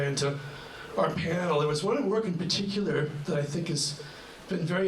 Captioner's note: none